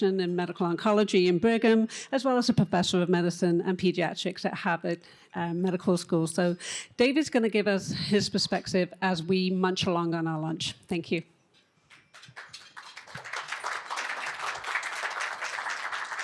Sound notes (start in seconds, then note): 11.8 applause